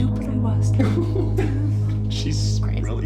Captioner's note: chuckling